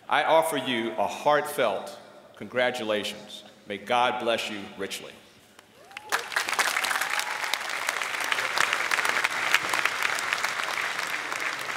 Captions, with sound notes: I offer you a heartfelt congratulations. May God bless you richly. [APPLAUSE]